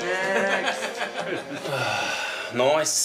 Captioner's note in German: Lachen; Seufzen